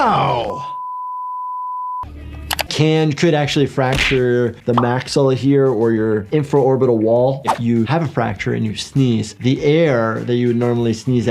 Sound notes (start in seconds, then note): 0.0 long beep